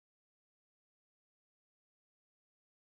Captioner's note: none